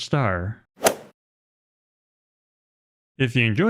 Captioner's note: golf swing sound effect